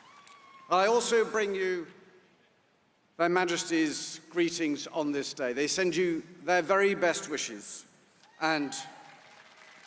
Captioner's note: applause